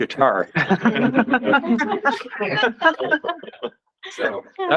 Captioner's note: laughter